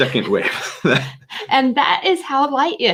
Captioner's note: laughing